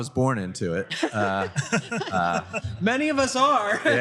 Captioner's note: laughter